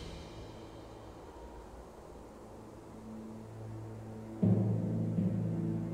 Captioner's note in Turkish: Rüzgâr sesi; Müzik - Gerilim